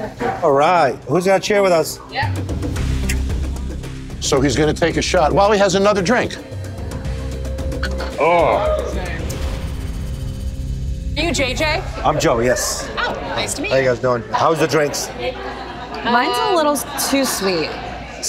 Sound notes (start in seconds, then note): 7.6 sighs